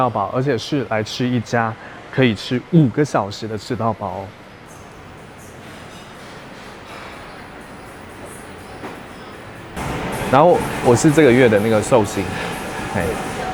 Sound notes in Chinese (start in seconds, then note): none